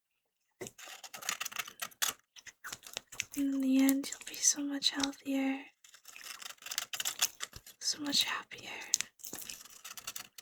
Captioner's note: surgery noises